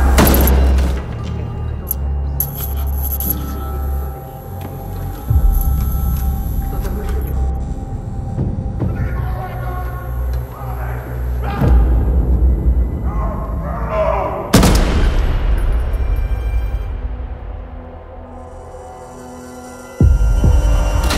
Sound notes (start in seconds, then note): 0.1 clank; 2.3 light flickering; 9.0 yelling; 14.5 gunshots; 15.5 intense music; 20.0 heartbeat